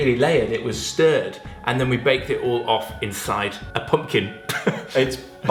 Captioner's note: laughs